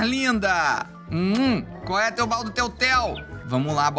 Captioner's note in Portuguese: som de beijo